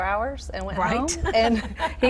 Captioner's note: laughs